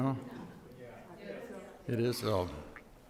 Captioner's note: audience mutters in response